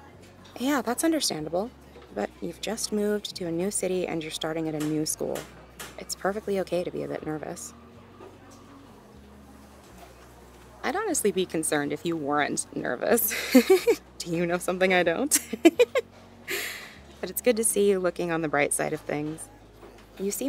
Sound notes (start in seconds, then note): 13.3 giggles; 15.3 chuckles